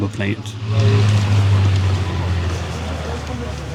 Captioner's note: aircraft engine